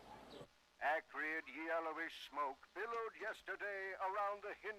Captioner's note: radio